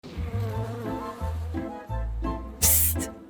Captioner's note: buzzing